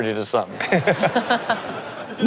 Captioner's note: laughing